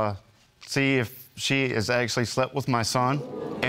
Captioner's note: audience gasping